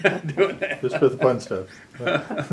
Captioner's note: laughter